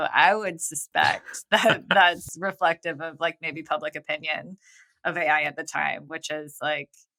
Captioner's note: <Laugh>